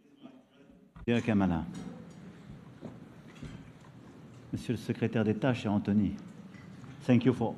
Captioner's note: in French